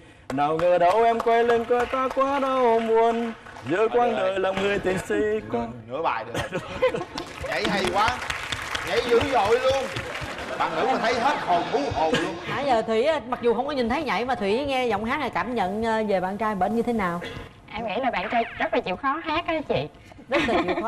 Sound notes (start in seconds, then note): 7.0 laughs; 7.1 claps; 20.3 laugh